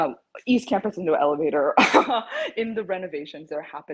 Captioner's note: chuckles